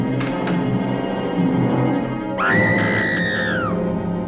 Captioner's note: scream